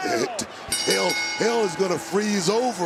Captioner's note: bell rings